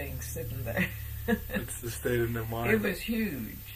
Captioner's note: laughing